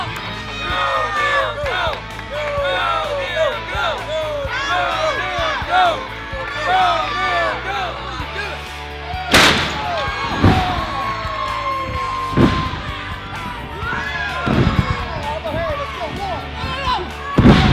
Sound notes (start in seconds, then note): 0.3 crowd cheering; 9.3 thud; 9.8 crowd cheering; 12.3 stage slams; 13.0 crowd cheering; 13.8 grunting sound; 14.7 crowd cheering; 16.7 indistinct shouting; 17.4 thud